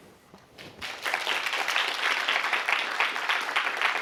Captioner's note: applause